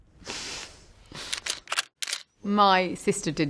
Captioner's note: camera clicking